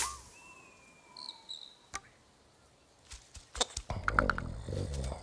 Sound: frantic chirping; wind whistling; growling

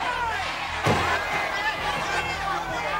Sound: loud thud

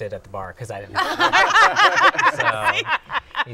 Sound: laughter

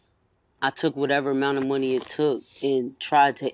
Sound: none

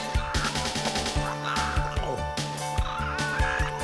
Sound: squawking

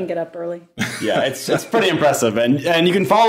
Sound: laughing

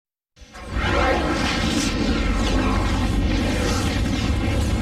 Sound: dramatic twister and helicopter sounds

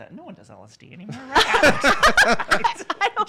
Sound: hosts laugh

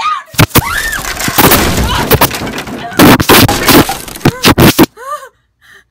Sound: the sounds of crashing and tumbling

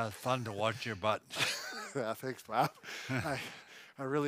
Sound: laughs

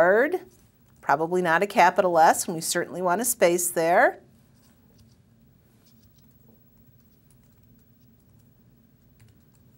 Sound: pause

